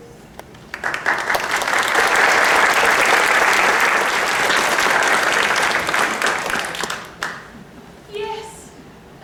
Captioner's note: applause